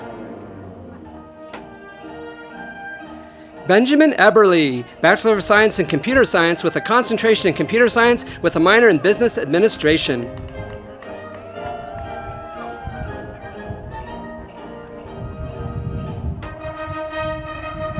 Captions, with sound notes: Benjamin Eberle, Bachelor of Science in Computer Science with a Concentration in Computer Science with a Minor in Business Administration. (audience applauding)